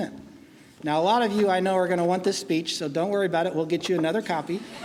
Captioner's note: laughing